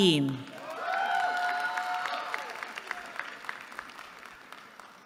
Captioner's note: applause